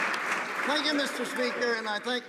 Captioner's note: applause